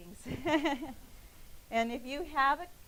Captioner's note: laughing